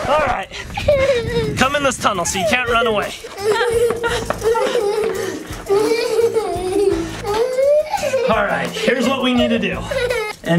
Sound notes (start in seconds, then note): 0.0 mom screams; 0.0 record scratching; 3.1 crying out